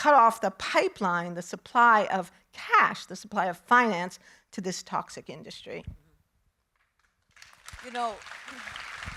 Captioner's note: audience applauding